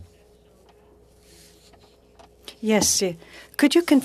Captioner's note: speaking French